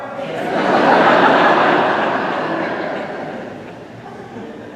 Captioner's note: congregation laughing